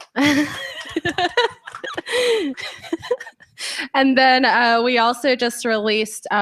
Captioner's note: laughs; applause